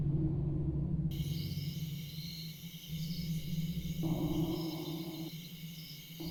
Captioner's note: A calm night of crickets